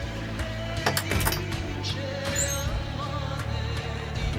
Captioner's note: drawer opening